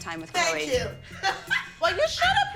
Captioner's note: laughs